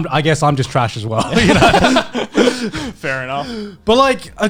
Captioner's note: laughing